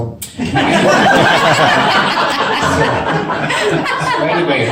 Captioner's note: audience laughs